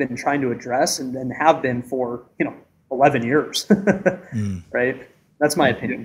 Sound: chuckles

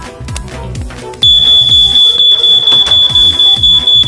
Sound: smoke detector finally goes off

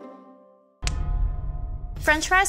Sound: dramatic bell

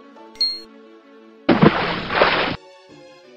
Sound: splashing sound

